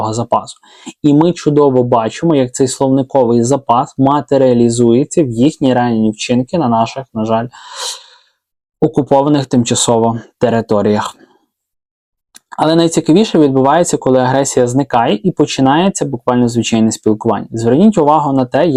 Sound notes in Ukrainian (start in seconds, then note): 7.6 сопіння